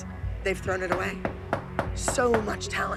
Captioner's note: knock on door